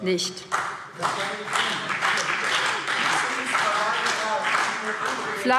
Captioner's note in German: Beifall BÜNDNIS 90/DIE GRÜNEN und SPD